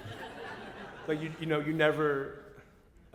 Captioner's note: laughter